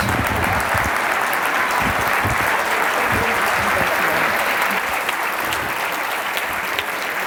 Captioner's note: applause